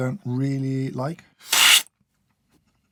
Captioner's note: slurp